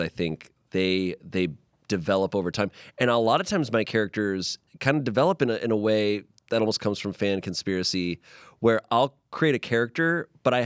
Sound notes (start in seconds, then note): none